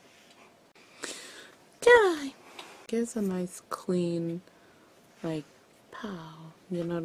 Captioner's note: inhales